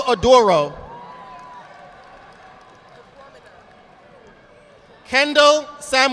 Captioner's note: audience applauding